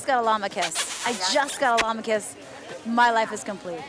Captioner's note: kissing sound